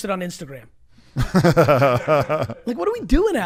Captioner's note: laughs